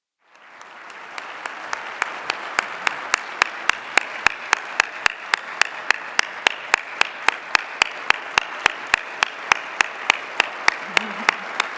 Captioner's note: applause